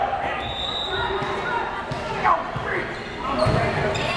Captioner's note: whistle blares